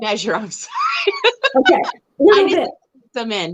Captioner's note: laughs